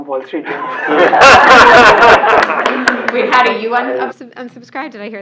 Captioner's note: laugh